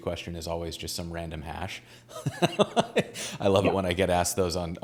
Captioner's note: laughing